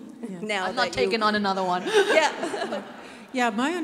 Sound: laughs

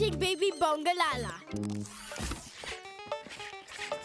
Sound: machine whirring

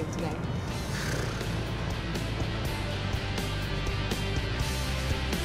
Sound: Lauren blows raspberry; upbeat music

